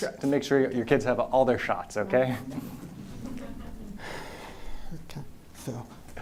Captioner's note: chuckles